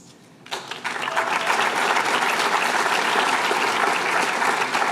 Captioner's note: applause